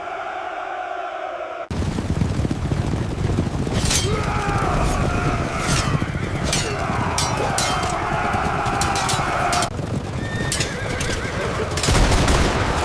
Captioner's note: gunshots